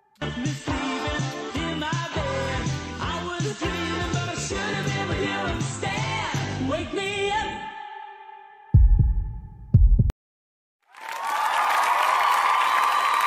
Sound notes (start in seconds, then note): 8.7 heartbeat; 10.9 cheers and applause